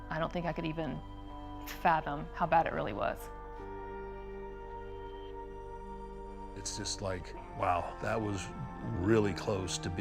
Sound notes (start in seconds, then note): none